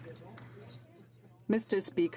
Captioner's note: some Applause